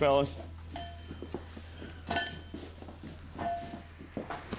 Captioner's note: footsteps, doorbell clangs; thuds against shoulder